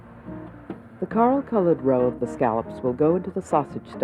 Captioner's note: voiceover